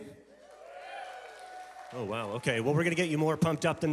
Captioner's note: congregation cheering